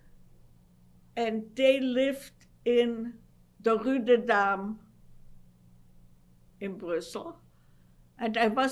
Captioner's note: non-english